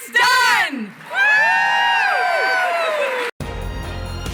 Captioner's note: cheering